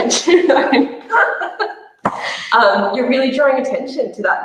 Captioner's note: laughs